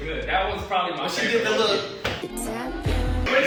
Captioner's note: foot stomping